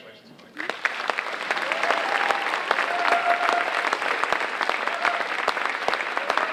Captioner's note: audience cheering and applauding